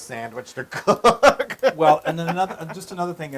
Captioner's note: laugh